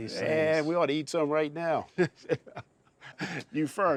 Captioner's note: chuckling